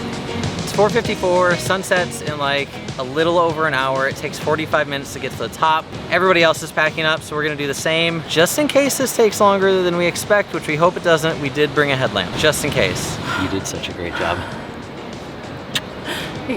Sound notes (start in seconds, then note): 13.2 big exhale